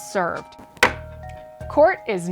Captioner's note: gavel thudding